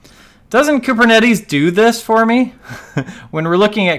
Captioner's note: laughs